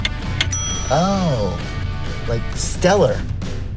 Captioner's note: clock ticking; bell dinging